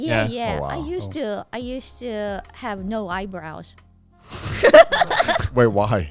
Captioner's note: laughs